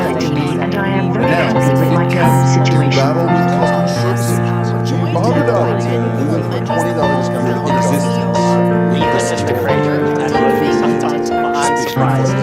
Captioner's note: park ambience